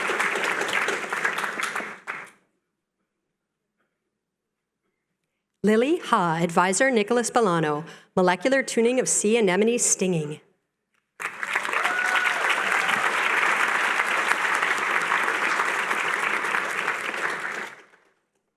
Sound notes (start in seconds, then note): 11.2 applause